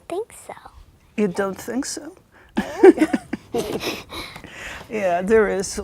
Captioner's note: laughs